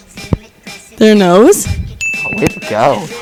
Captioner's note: bell dings